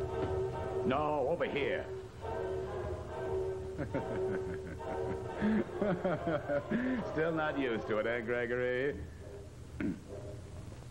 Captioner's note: laughs